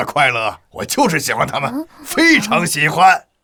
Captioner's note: sighs